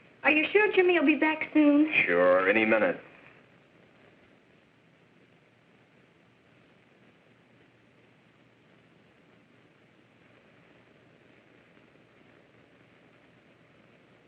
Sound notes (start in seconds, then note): none